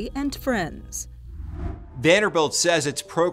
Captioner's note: graphics whooshing